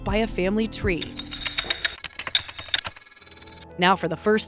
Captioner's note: glyphs beeping